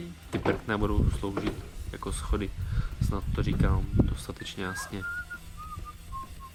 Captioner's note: steps